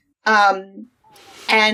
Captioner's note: laughs